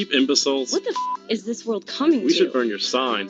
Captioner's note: beep